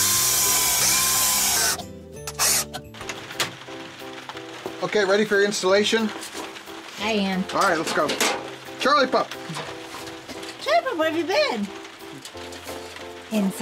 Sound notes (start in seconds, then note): 0.0 drilling; 2.2 door opening